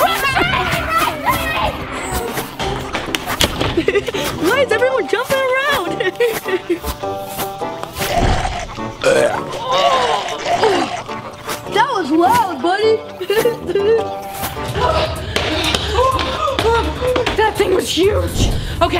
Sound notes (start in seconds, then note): 3.2 door slamming shut; 3.7 giggling; 10.0 groaning; 14.7 giggling